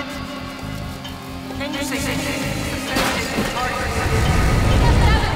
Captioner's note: indistinct chattering